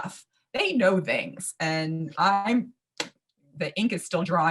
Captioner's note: claps